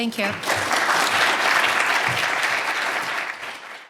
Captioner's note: audience applauding